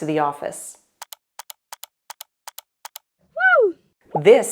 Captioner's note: clicking